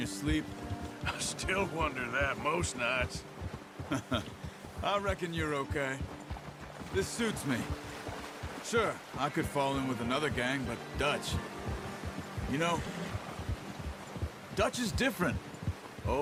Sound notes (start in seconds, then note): 3.9 laughs